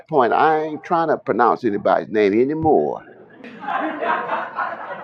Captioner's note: laughter